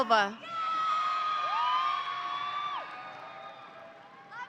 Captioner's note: audience cheering